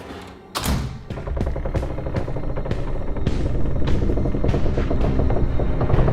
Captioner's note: wooden boards creaking